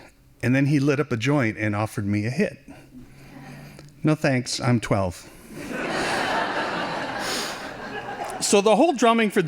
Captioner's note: laughing